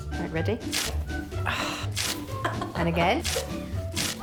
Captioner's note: groans and laughs nervously